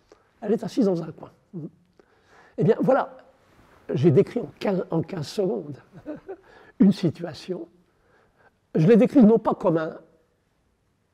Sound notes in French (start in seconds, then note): 5.9 rire